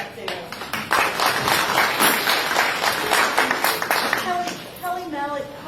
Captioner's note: applause